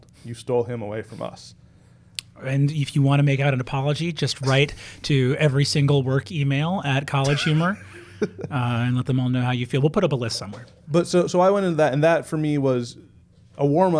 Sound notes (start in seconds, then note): 7.2 soft chuckles